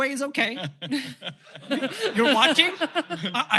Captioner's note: laughter